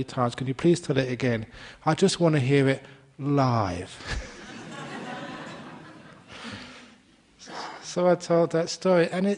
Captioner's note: laughter